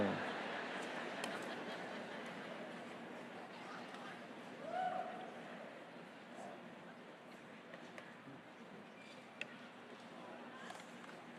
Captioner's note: crowd "aww"